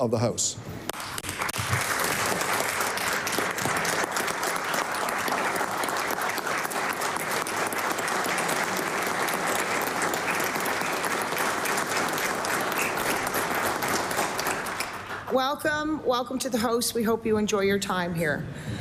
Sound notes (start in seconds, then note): 5.7 applause